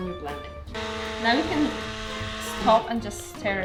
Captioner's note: blender whirring